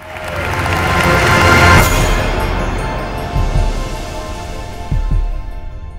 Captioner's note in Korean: 박수